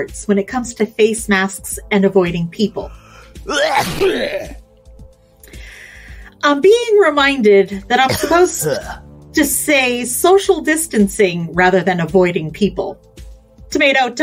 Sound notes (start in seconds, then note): 3.4 sneezes